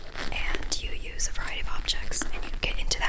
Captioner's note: latex squeaking